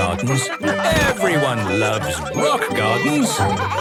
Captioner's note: laughter; laughter